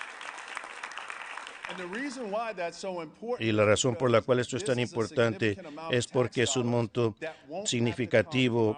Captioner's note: applause